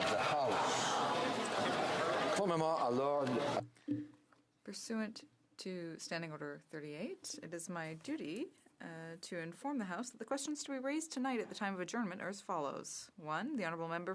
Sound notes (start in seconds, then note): 9.5 speaking French